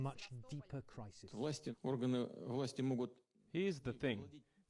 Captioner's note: speaking russian